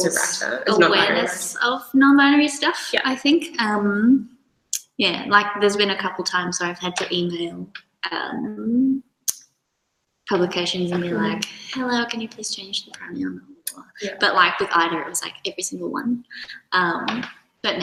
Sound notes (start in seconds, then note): 13.7 murmurs